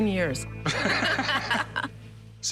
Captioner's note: laughter